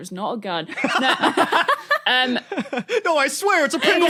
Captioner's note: blurt laugh